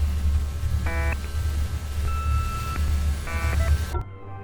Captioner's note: distortion crescendos